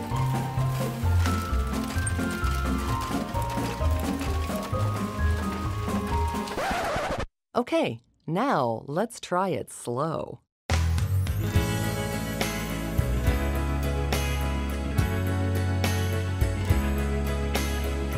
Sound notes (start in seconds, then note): 6.5 record scratching; 10.8 smooth mellow music